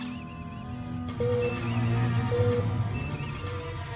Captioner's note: beeps